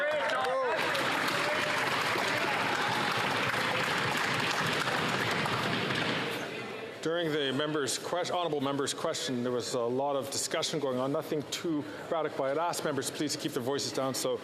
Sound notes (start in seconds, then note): 7.1 some Applause